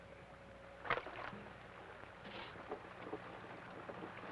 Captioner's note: water splashes